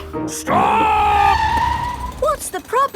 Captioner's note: tires screeching